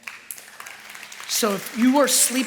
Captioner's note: applause